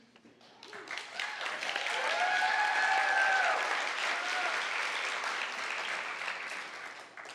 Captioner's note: applause, cheering